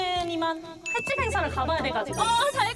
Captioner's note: busy sound effect